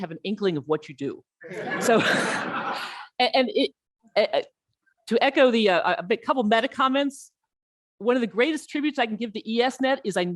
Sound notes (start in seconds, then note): 1.4 audience laughs